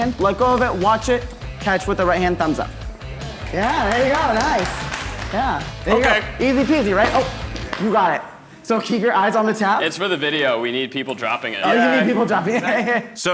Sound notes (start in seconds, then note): 3.2 onlookers applauding; 11.6 laughing